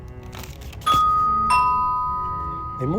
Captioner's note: doorbell rings